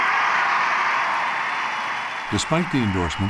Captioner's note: cheering and applause